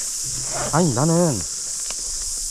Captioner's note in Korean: 지이익 지펴 여는 소리